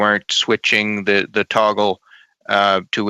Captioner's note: speaking French